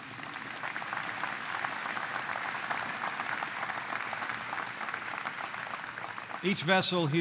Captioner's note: applause